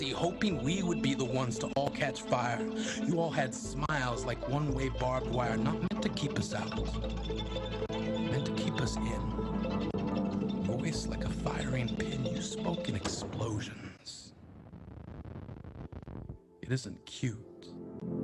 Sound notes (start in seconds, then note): 14.2 distorted wind blowing